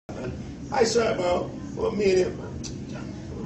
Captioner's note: drunkenly slurring in Jamican patois